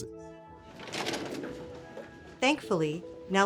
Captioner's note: file drawer whooshing